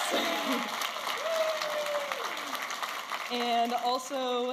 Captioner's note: audience applauding and cheering